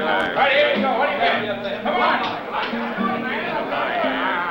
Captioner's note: men clamoring; bright music